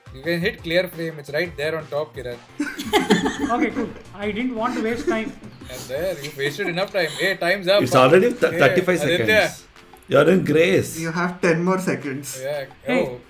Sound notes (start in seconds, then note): 2.6 laughs